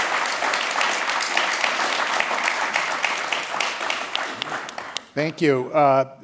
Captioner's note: applause